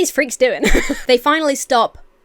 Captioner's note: Emma laughs